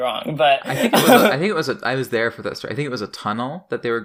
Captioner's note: laughs